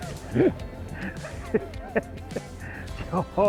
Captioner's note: everyone laughs